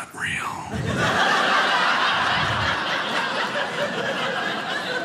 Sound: audience laughing

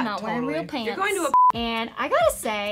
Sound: beeping

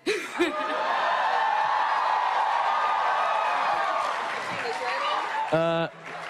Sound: crowd cheering

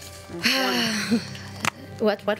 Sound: sighs

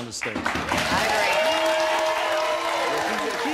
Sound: audience cheers and applause

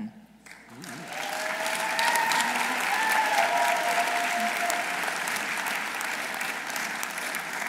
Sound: audience applauding; audience cheering

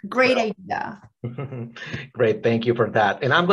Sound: laughs

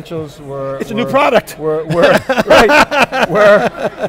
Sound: laughs

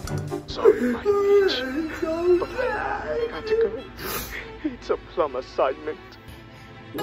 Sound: crying; sounds from TV

